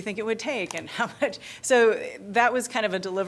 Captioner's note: laughter